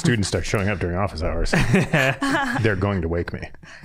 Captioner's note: all laughing